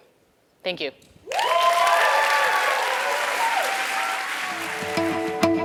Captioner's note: applause